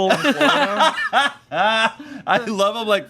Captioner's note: laughing